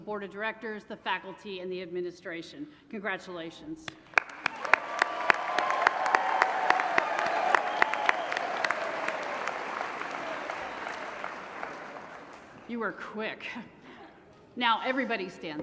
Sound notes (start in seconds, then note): 3.9 applause; 13.8 laughter